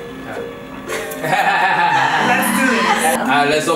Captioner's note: laughter